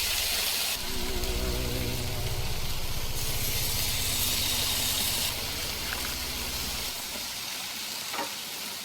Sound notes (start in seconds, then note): 0.7 air quavering; 3.8 chicken sizzling continues